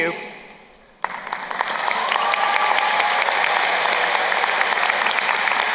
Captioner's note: crowd cheering and applauding